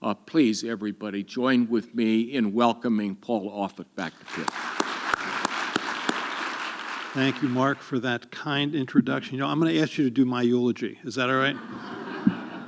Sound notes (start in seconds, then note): 6.6 audience clapping